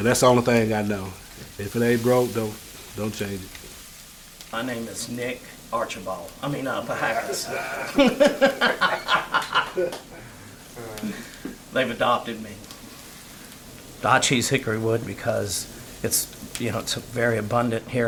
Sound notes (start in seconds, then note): 6.9 laughs